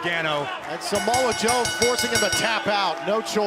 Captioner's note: bell ringing